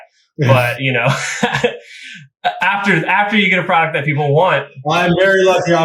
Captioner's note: laughs